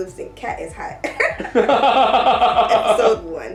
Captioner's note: giggles; laughing